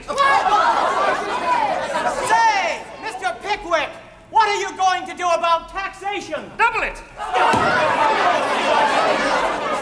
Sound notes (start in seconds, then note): 0.0 crowd roaring; 0.0 crowd; 7.2 crowd roaring